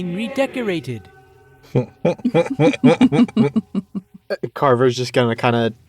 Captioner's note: EVERYONE chuckles